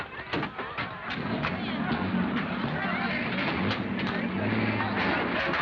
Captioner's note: vehicle engines revving